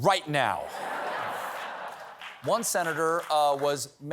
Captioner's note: laughter